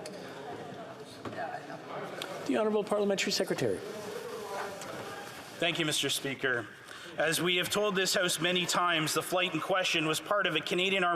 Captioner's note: yelling